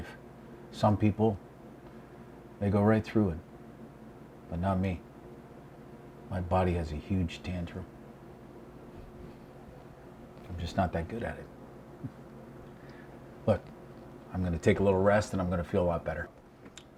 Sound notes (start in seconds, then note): 12.2 scoffs